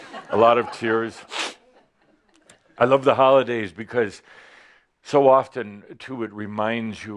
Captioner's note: some chuckles